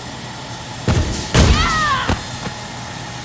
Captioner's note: whack